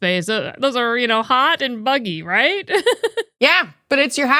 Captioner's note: laughs